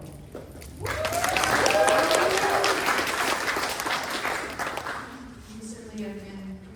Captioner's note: applause